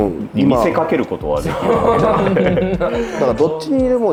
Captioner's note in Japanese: 笑い